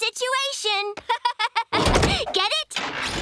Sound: laughing

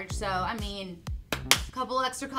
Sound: claps

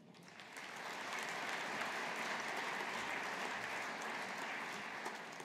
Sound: audience applauding

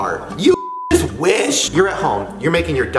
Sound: beep

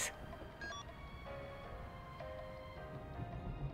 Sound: beeping

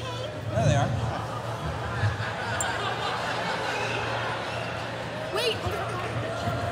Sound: laughter

